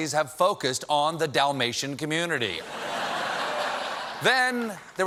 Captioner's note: laughter